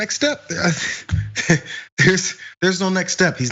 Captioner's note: laugh